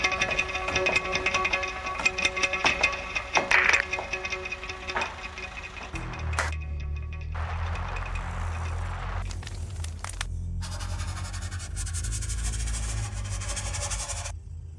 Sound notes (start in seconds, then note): 3.5 items clanking; 6.5 hands smacking; 9.2 paper rustling; 10.6 pencil rasping